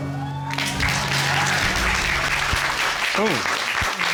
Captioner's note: applause